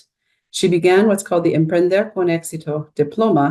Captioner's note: speaking in Spanish